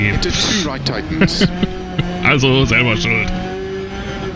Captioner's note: laughs